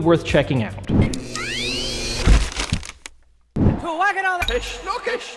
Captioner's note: woosh and beeps; speaking in another language